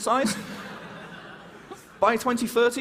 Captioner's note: laughter